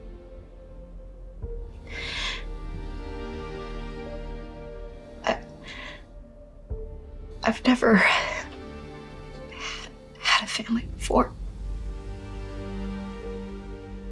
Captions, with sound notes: (slow orchestral music continues) - I, I've never (sighs) had a family before.